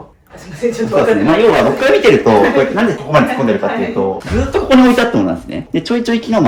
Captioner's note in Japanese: 笑い